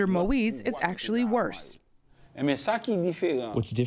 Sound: through translator

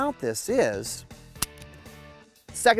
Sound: dry fire click

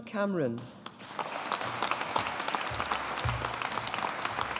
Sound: audience applauding

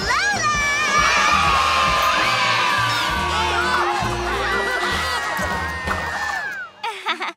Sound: cheering; chuckles

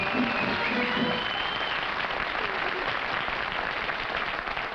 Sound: cheering and applause

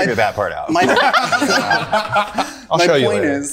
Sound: group laughing

